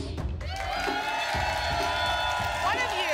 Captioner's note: applause and cheering